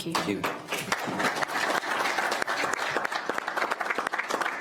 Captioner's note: attendees applaud